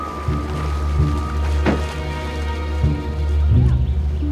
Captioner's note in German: Tür klappt